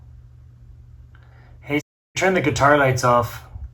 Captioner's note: Siri